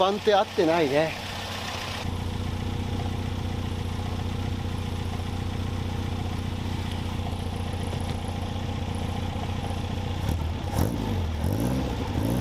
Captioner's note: engine whirring